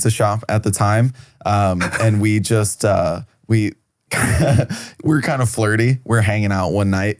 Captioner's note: laughs